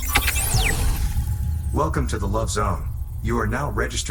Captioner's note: ai voice